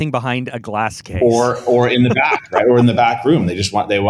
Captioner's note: laughs